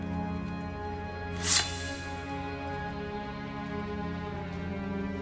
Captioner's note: sword scraping